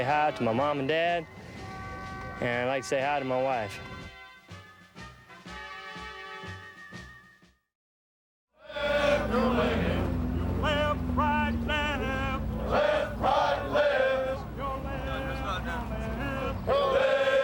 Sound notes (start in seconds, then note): 10.4 crowd chatter